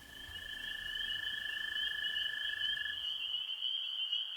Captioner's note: insects chirping